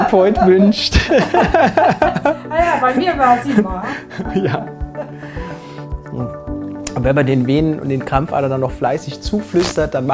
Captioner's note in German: Lachen